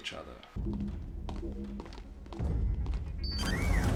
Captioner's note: footsteps; beep, whirr